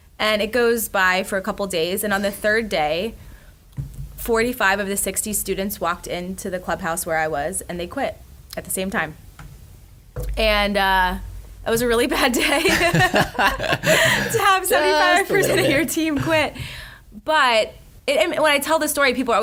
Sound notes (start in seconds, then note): 12.4 laughs